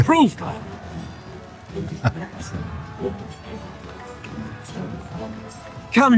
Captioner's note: chuckles